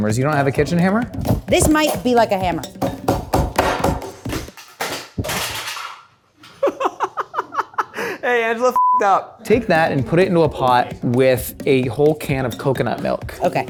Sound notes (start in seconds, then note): 2.6 rolling pin banging on counter; 5.3 food processor clangs on floor; 6.5 laughs